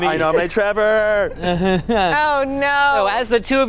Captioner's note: laughing